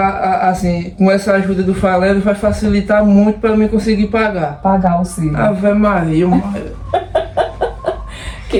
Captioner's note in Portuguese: risadas